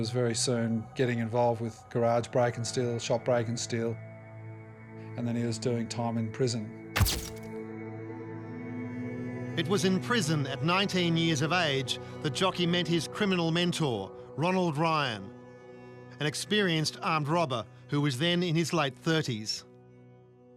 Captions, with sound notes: He was very soon getting involved with garage break and steal, shop break and steal, and then he was doing time in prison. (CAMERA FLASHES) It was in prison at 19 years of age the Jockey met his criminal mentor, Ronald Ryan, an experienced armed robber who was then in his late 30s.